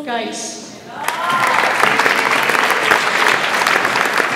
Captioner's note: audience applauds